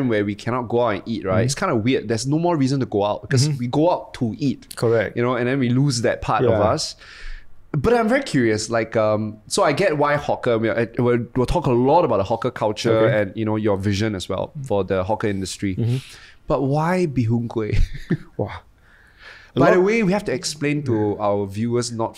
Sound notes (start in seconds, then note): 17.8 laughs